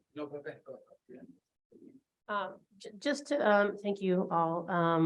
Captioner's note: judge faintly speaking